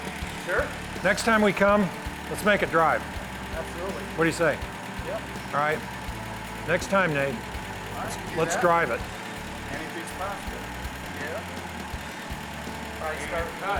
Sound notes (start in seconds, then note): 11.8 car engine roaring